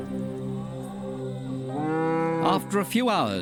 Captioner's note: cow mooing